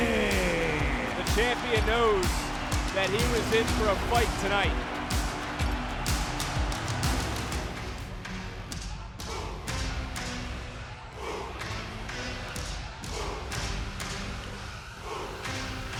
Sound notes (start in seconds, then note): 6.1 audience cheering; 6.1 upbeat music